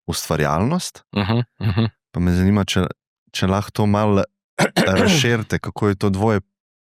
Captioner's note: clears throat